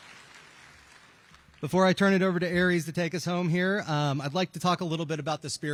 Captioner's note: applause